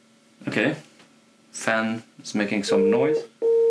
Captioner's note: the fan makse some noise